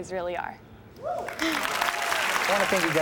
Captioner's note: audience cheers and applauds